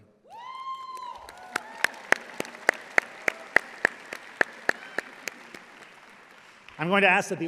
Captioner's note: audience applauding